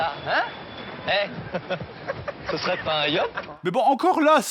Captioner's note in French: rires